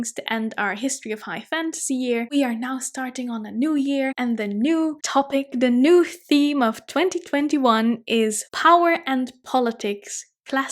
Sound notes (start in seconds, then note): none